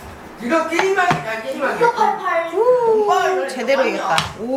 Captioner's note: everyone is talking